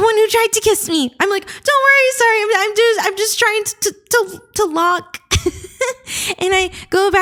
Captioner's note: stammers